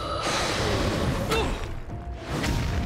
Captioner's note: groaning